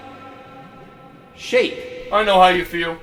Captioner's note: none